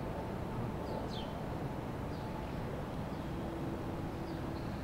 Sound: birds chirp

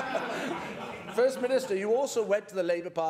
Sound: laughter

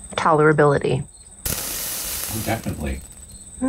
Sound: fuse sizzling

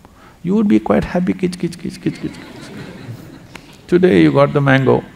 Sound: laughter

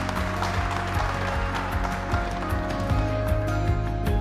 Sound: group clapping

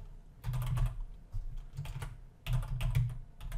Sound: typing

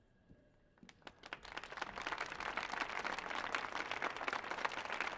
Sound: audience applauding

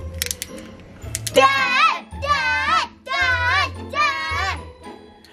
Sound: kids chanting

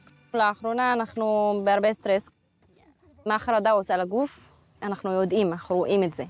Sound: speaks foreign language

